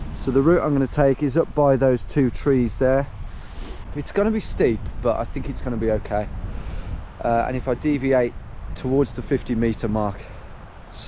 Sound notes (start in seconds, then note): 3.4 sniffs